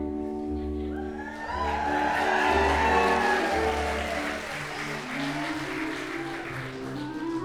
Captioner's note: audience applauding